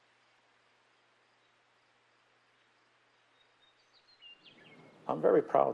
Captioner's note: birds chirping